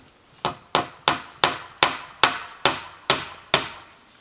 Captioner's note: hammering